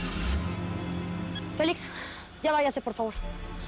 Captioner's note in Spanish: Sonido del automóvil